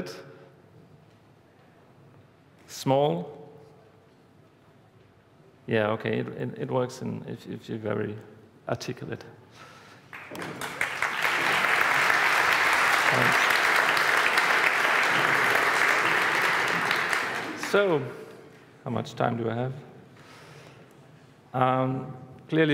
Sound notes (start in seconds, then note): 12.3 applause